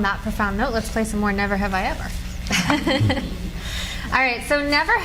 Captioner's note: laughs